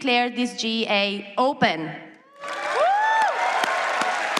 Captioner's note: applause